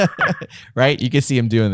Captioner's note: laughter